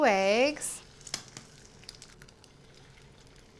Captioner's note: sizzling